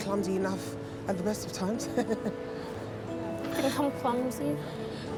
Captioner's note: laughs